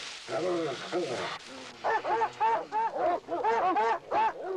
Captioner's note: barking